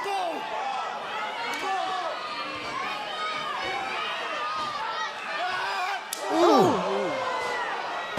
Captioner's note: crowd chatter